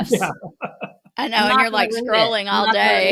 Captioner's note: laughing